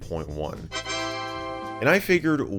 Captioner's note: Windows 3.1 startup sound